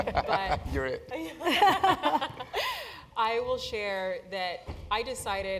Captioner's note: laugh